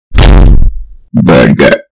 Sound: boom

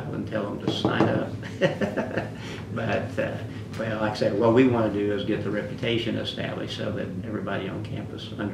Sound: laughs

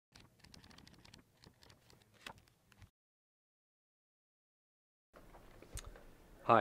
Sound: book pages flipping

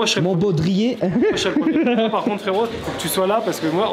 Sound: laugh

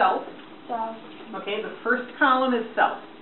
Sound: voiceover

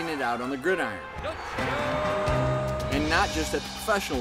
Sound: crowd cheers

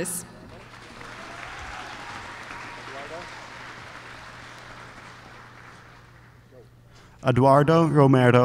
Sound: applause

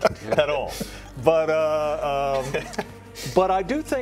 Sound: laughter

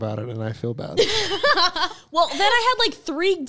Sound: both laughing

